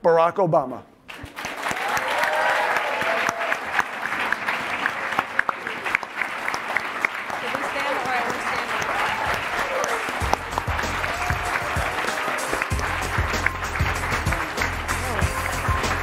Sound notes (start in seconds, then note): 1.5 audience applauding and cheering; 9.9 upbeat instrumental music